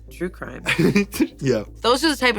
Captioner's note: laughs